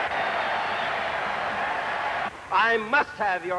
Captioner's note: cheering and applause